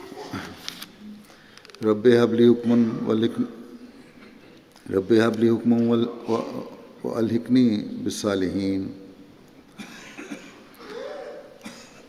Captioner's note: Arabic